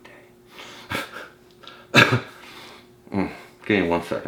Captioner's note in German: kichert